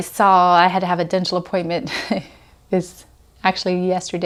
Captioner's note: laughs